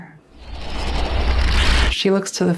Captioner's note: scratchy sound rises